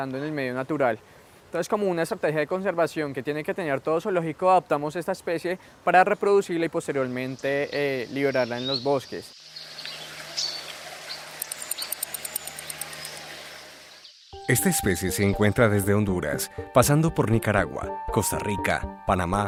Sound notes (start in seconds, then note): 9.2 sonidos silvestres